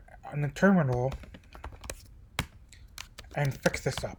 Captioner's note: typing